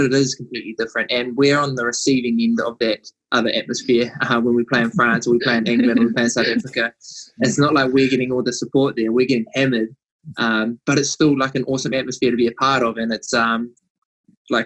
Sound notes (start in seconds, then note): 3.6 laughs